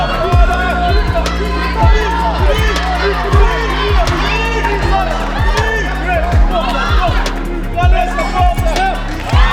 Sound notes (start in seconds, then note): 7.2 bell